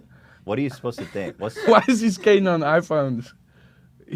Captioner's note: laughs